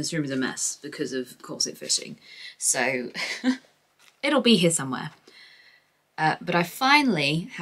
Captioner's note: laughs